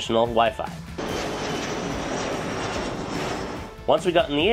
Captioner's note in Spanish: motor de avión